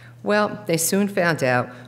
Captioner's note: none